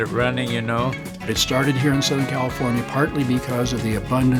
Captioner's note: pat